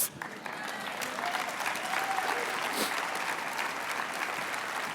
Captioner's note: applause